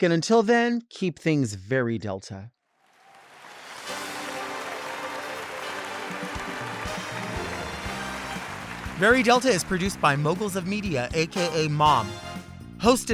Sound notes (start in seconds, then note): 2.8 audience applauding; 3.8 dramatic music